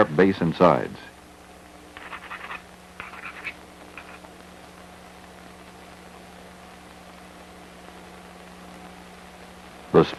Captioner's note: sound of grinding rock